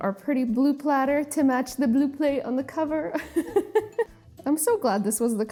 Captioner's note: laughs